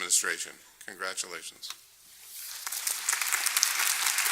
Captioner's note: applause